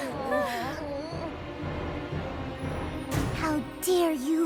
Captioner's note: all groaning